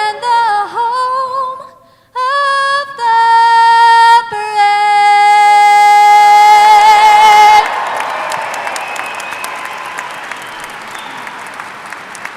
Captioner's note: applause